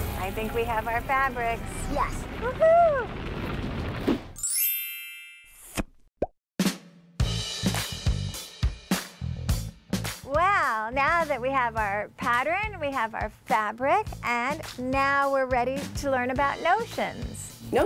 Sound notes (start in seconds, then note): 3.3 pop; 4.4 chime